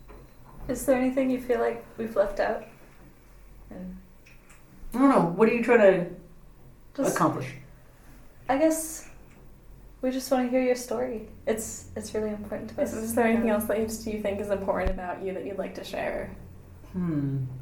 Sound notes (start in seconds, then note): none